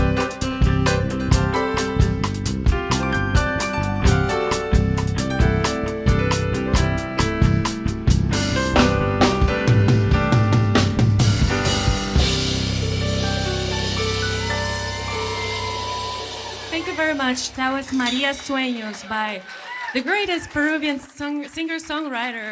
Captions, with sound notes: (audience applauding and cheering) Thank you very much. That was, "Maria Sueños," by the greatest Peruvian song singer, songwriter